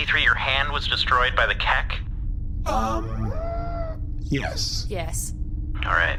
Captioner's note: whirring head turn sound